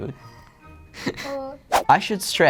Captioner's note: laughs